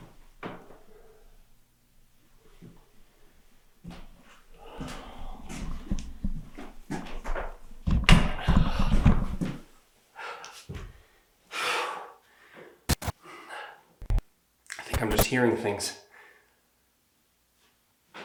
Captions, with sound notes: (Jacob exhales) (wood thuds) (Jacob panting) (static crackling) I think I'm just hearing things.